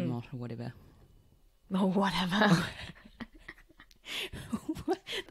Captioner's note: laughs